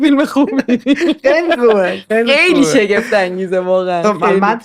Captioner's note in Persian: خنده